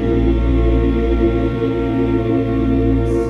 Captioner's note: none